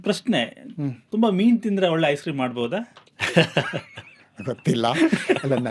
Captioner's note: laughs